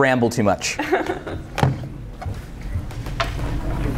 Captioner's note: laughs